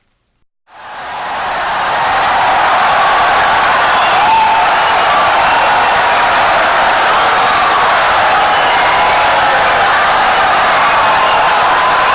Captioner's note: wild applause and cheering for 17 seconds